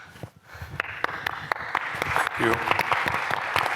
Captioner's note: applause